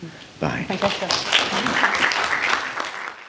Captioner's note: applause